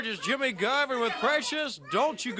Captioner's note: crowd chatter